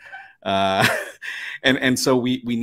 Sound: chuckles

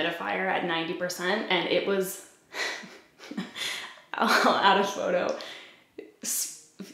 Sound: giggles

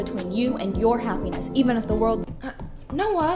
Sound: running footsteps

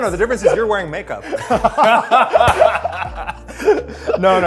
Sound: Phil and Eugene laughing

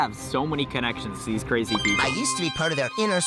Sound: text pings

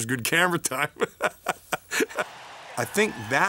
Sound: laughs

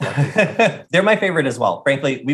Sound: laughing

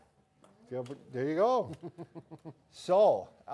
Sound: chuckling

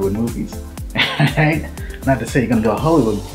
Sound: laughing

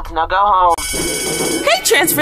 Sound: ringy ring!

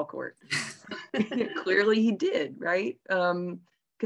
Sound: laugh

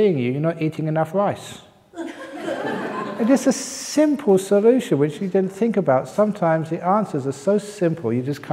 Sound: laughter

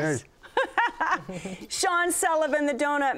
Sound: laughs

